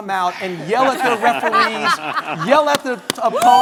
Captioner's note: everyone laughing hysterically